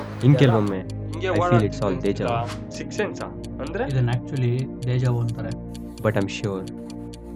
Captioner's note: none